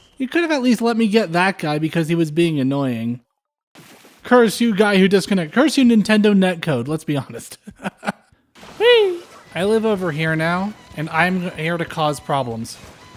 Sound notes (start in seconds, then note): 7.5 laughter